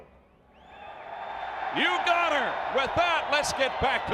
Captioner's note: crowd cheering